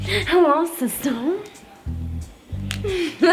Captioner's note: laughs